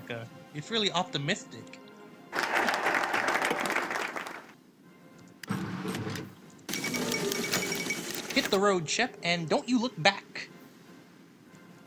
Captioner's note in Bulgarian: Аплодисменти